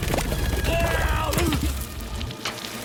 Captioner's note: screaming